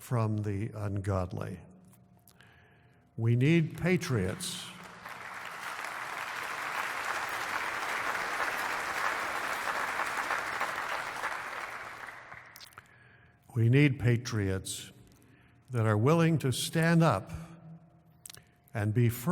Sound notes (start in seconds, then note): 3.7 applause